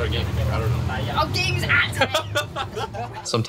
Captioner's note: laughing